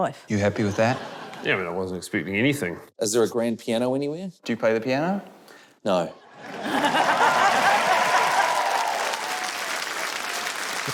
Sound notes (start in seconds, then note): 6.4 cheering, applause